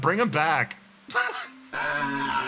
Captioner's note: laugh